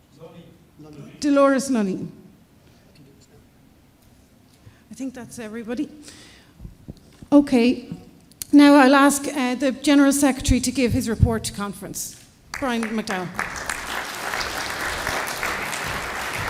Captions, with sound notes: . Delores Lunny. I think that's everybody. Okay, now I'll ask the general secretary to give his report to conference. Brian McDowell. [APPLAUSE]